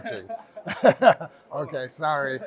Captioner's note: laughter